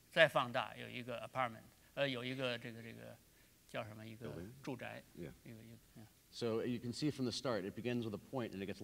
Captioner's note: speaking in Chinese